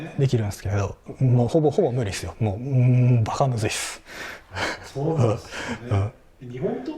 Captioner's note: laughs